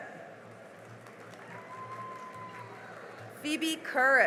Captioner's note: cheering and applause